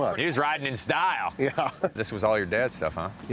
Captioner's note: laughs